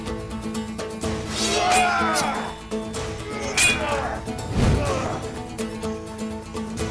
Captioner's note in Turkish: Dövüşme sesleri; Kılıç sesleri